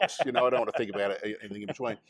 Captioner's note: laughs